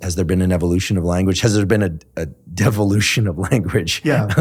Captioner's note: laughs